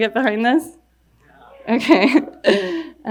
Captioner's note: crowd